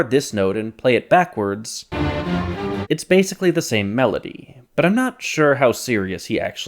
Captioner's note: bang